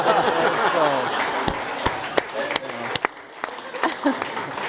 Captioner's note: applause